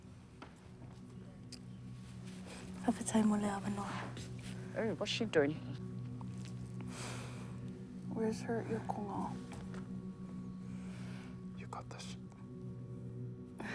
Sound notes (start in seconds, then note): 0.3 suspenseful music; 6.9 inhales sharply